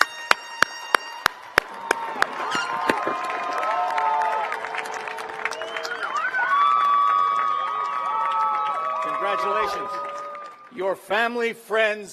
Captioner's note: cheers and applause